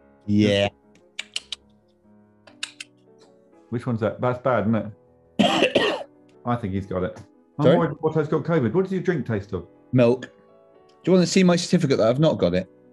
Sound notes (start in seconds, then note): 5.4 coughing